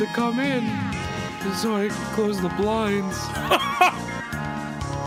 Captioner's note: laughs